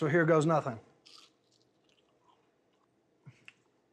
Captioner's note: crunching into it